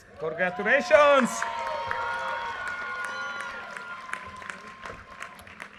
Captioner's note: audience cheers and applause